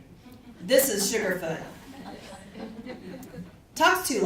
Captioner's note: audience chuckles